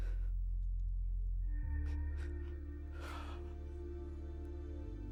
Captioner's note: sobs